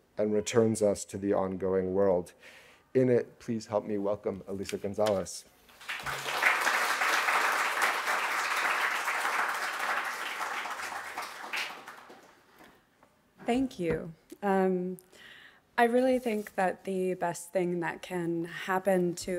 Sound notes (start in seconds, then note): 5.7 audience applauding